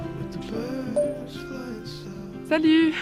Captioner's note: voice note message sound